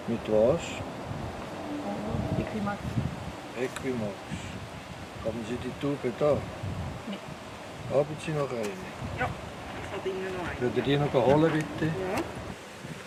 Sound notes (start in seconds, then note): none